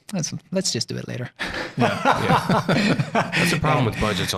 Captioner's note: laughing